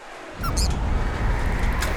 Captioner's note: wind howling; squeaks